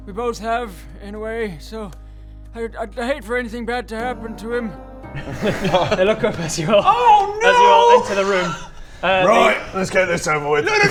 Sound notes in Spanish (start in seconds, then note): 5.1 risa culpable